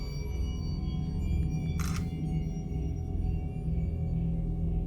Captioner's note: camera snaps